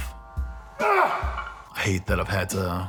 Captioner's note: grunting